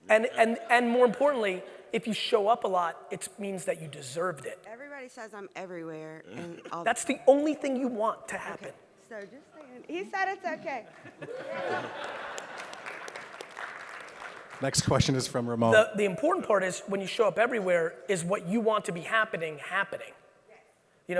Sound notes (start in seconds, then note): 10.6 audience laughs and claps